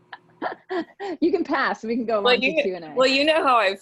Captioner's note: laughs